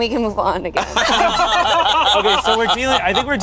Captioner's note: group laughing